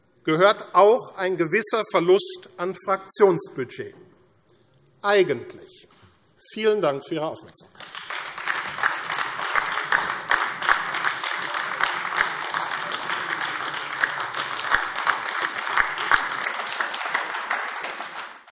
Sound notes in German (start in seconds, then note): 7.7 Beifall AfD